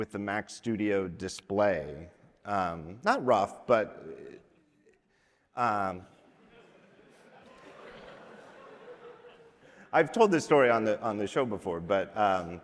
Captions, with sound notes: with the Mac Studio display. Not rough, but... (audience laughs) I've told this story on the show before, but...